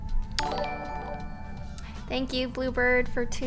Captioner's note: notification tingling